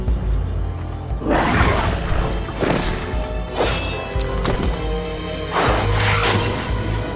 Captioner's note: darkspawn growls; sword clangs